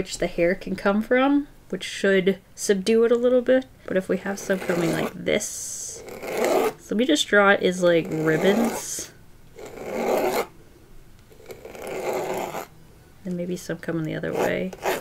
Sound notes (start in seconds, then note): 9.6 pencil scratching on canvas